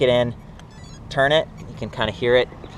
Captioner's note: bike beeps